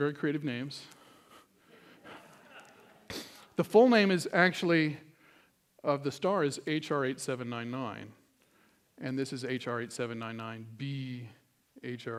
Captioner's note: laughter